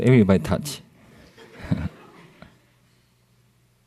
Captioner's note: laughter